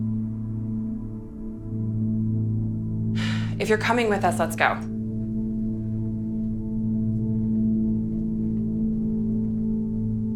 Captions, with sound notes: (sighs) If you're coming with us, let's go.